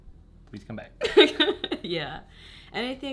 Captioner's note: both laughing